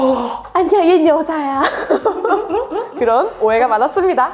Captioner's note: laughs